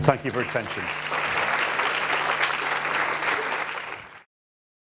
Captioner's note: applause